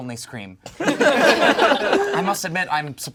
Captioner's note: all laugh